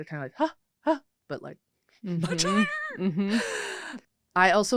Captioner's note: laughs